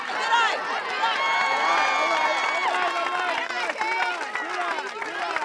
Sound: crowd cheering

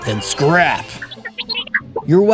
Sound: R2-D2 noises

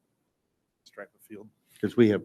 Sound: board member speaking faintly

